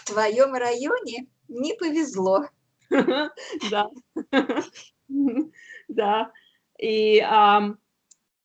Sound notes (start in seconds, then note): 2.9 laughing